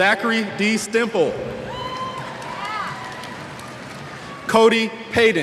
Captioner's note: cheers